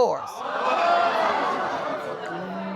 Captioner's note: audience exclaiming